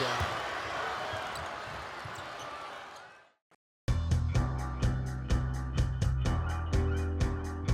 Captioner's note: crowd cheering